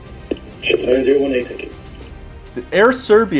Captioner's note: speech distorted by radio interference